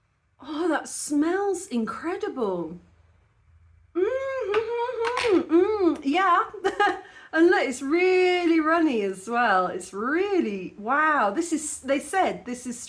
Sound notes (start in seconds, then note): 4.0 happy noises; 6.6 laughing